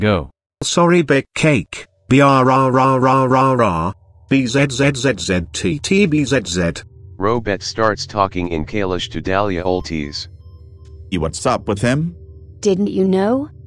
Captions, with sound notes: - Sorry Bake Cake, brrrrrr, bzzzztt bzz. (Robett starts talking in Calish to Dalia Oltiz) - What’s up with him? - Didn’t you know?